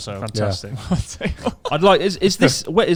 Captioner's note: laughs quickly